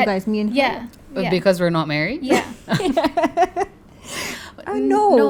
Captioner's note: laugh